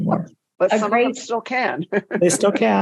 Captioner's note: laughs